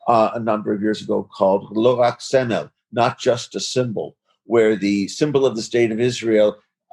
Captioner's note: speaking in Foreign Language